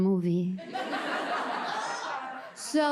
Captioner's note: audience laughs